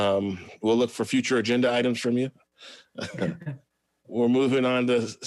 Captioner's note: laughs